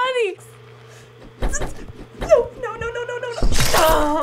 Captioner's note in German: Wimmern!; Blut spritzt; Stöhnt